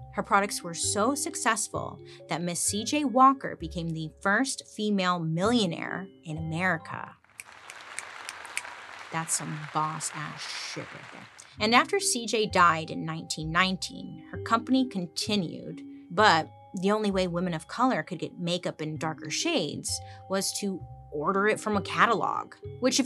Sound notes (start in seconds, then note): 7.4 people applauding; 8.2 snaps